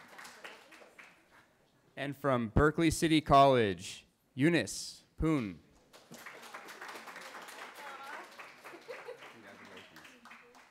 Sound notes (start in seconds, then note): 6.1 cheering; 8.6 laughing